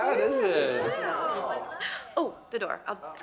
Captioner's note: doorbell chimes